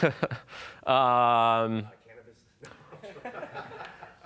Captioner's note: laughs; laughing